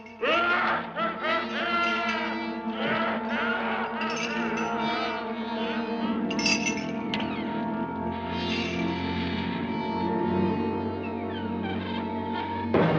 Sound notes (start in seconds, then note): 0.2 ominous laughter; 7.0 door creaking